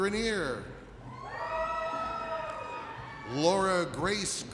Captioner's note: audience cheers